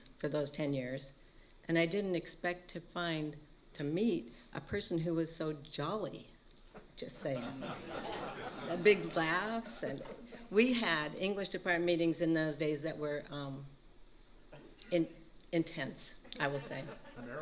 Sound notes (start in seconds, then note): 7.2 laughter